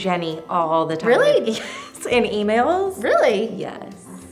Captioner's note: laughs